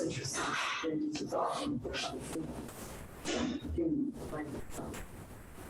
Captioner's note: speaks distorted